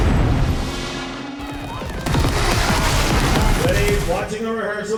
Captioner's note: weapon shooting rapidly